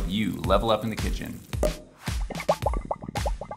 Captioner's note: wine bubbling; cork popping